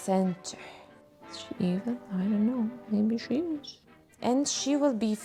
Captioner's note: whispers